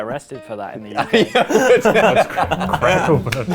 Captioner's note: laughing